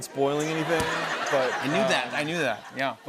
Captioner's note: laughter